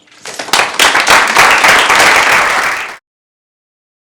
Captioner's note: applause